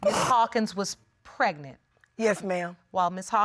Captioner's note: sniffling